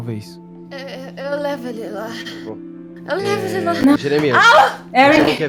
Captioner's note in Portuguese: grito